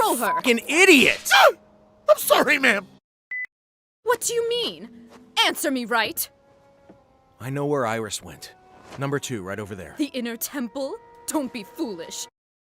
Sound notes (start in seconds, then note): 1.3 yelps